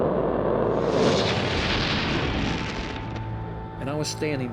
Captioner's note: fire rages, then stops